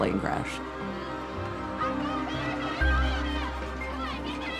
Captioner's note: screaming, shouting